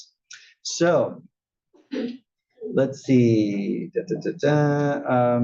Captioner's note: cough